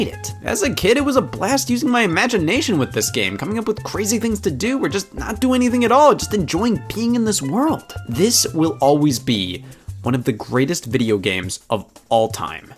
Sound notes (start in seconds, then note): none